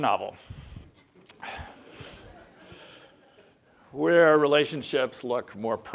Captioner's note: laugh